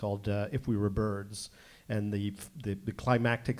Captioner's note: none